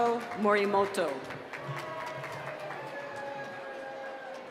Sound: applause

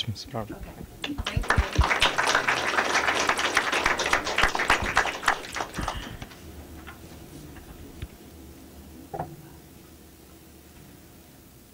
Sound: applause

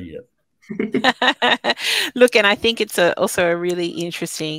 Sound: chuckling

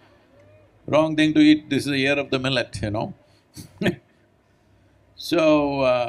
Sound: laughs

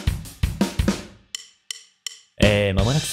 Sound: deep voice

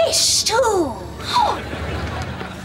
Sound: gasping

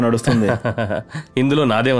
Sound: laughs

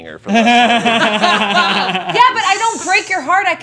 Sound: group laughing

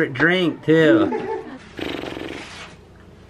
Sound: bystanders laugh

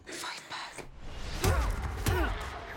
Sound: grunting

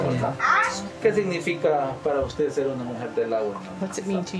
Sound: speaking foreign language

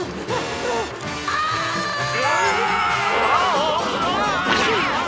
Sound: panting; screaming

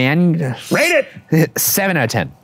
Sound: sword whooshing through air

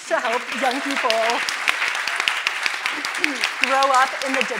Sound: audience applauding

